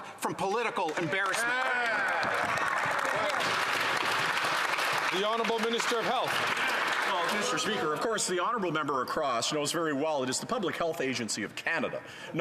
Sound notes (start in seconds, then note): 7.9 some Applause